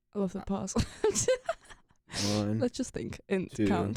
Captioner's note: laughs